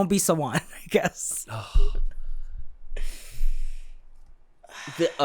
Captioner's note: sigh